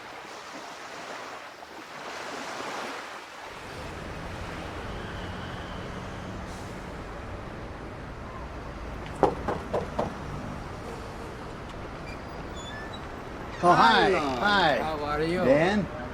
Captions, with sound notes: (Traffic sounds) (Knocking) Hi, how are you, Dan?